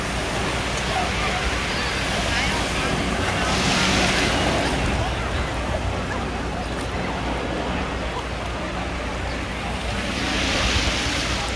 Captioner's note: ocean waves & public laughter; more ocean waves